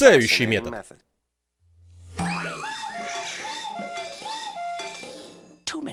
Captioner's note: <i>cuckooing</i>